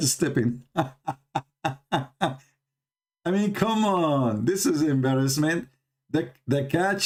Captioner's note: Ketawa